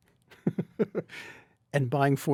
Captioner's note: chuckles